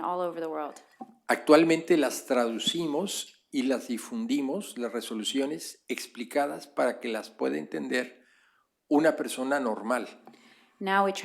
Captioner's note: speaking spanish